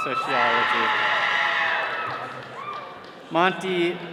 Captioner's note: all cheering